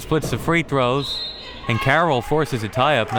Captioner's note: whistle